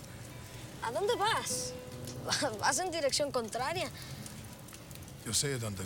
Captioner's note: boy and Rick speak Spanish